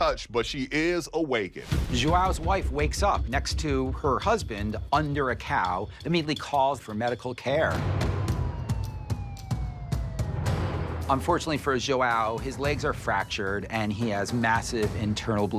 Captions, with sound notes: she is unscathed untouched, but she is awakened. - Joao's wife wakes up next to her husband under a cow, immediately calls for medical care. [intense music] [police sirens] Unfortunately for Joao, his legs are fractured